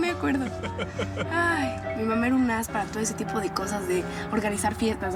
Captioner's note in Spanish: risas